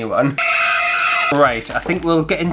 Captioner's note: screams!